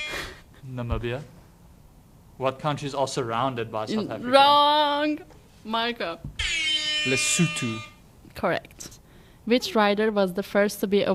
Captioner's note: horn Sound